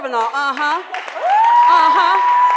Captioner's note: cheering and applause